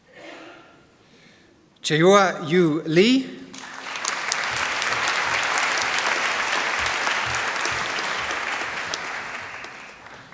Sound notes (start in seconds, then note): 3.5 applause